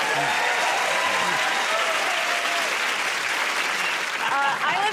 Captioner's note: cheers and applause